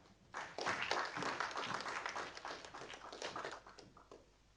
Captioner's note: audience applauding